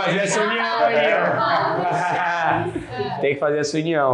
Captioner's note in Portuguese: risos